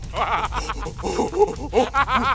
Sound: laughing and taunting

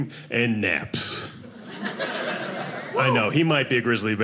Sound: audience laughing

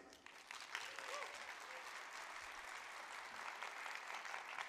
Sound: audience applauds

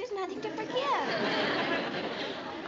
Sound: laughter

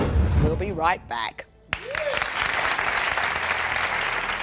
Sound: applauding

